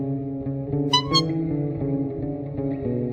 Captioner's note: weak Honk